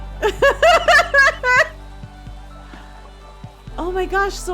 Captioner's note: laughing